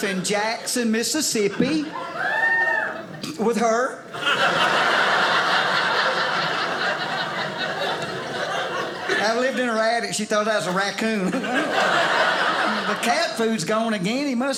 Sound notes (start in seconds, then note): 2.0 woman cheers; 4.1 audience laughing; 11.1 audience laughing